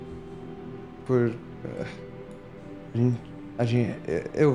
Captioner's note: stutters